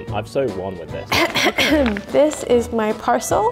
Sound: clears throat

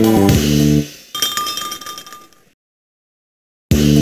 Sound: tinkle tinkle

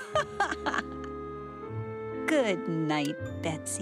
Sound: laughs

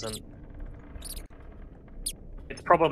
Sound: mouse squeaking

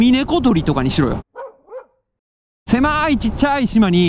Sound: bird

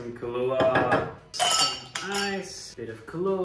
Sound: ice clinking

